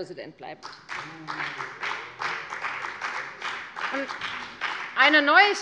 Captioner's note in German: Beifall bei der FDP